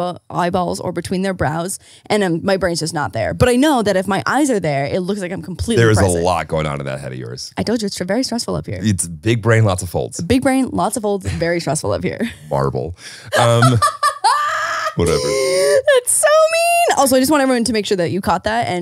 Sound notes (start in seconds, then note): 13.3 laughing